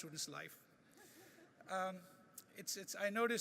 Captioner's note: laughing